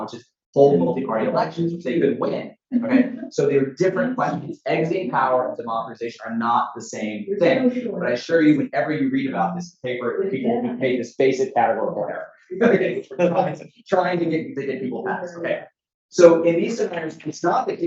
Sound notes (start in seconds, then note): 12.0 audience member laughs